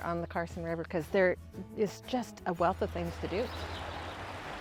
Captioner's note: river running; birds chirping